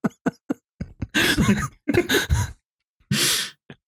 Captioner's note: scattered laughter; laughs